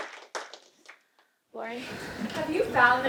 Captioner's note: group applauds